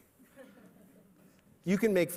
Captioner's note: laughter